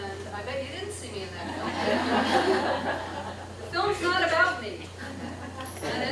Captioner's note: laughter